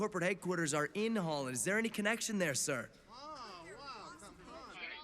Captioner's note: reporters clamouring